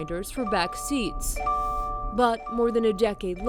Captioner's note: car beeping